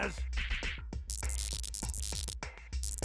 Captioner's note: electronic buzzing